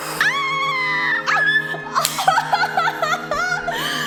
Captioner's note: laughs